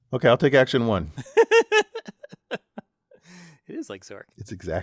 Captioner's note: laugh